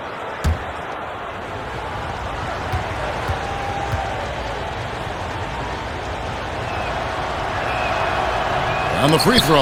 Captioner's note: crowd noise